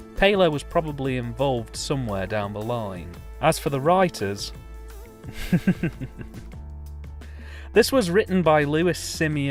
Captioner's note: laughs